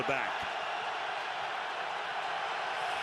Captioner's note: crowd cheering